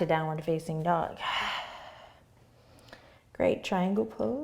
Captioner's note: exhaling